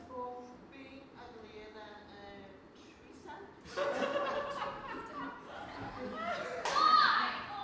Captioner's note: they laugh